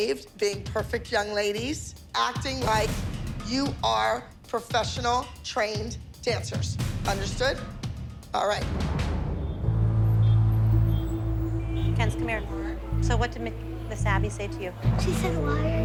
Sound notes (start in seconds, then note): 9.3 cars honking